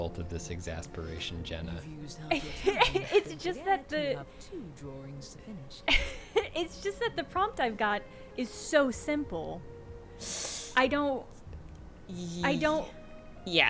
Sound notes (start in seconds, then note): 2.3 laughs